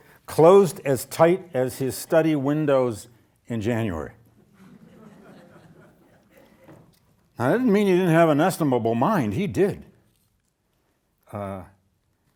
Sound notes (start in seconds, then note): 4.4 audience laughing